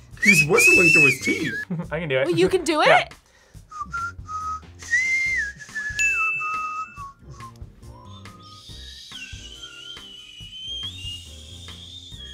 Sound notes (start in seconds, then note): 1.8 laughs; 3.6 whistles; 6.0 bell rings; 7.9 whistles weakly